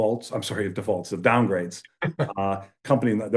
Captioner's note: laughs